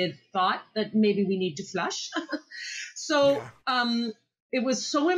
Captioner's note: laughs